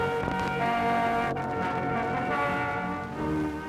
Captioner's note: none